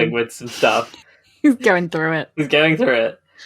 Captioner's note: laughing